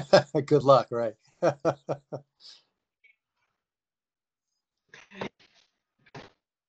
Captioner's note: chuckles